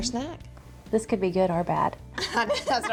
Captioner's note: laughs